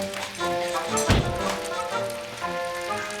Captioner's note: crackling